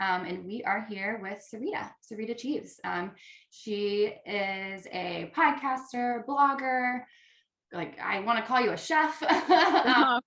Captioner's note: all laugh